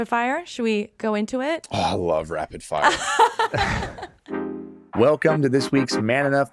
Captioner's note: laughing